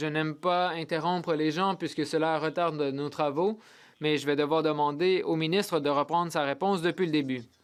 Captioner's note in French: voix de l'interprète